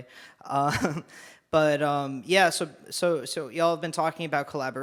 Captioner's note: chuckles